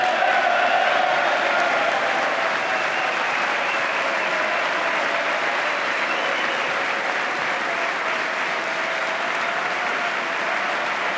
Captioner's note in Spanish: aplauso